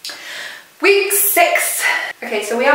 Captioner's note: sigh